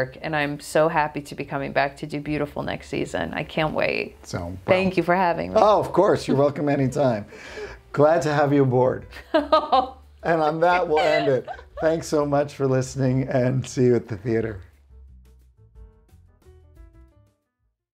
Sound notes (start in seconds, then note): 9.2 laughing; 14.9 soft piano music